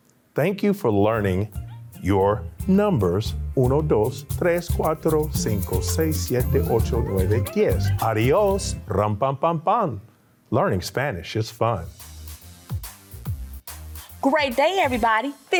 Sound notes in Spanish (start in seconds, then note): 3.8 hablando en español; 11.9 música alegre